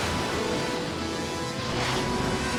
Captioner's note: jets whoosh through air